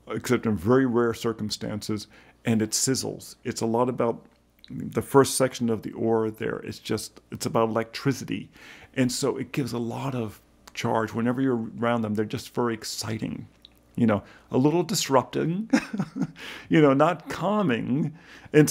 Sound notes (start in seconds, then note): 15.7 laughs